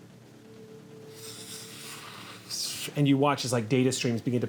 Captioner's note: whooshing